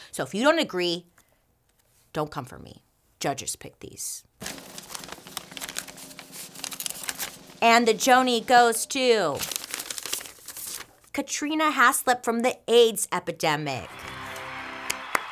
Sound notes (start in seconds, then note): 4.4 paper rustles; 13.8 crowd cheering